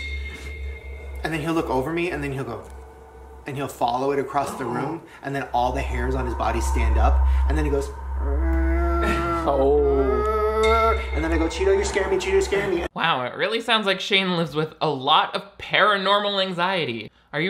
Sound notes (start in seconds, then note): 0.1 eerie music; 9.1 moans; 10.6 Shane continues moaning